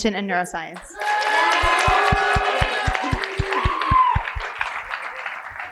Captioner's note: cheering and applause